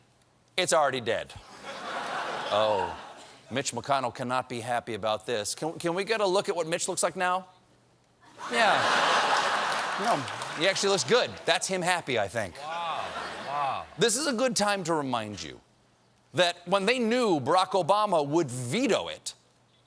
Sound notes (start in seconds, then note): 4.1 laughter